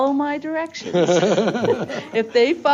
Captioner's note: laughing